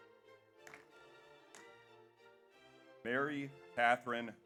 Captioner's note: audience applauds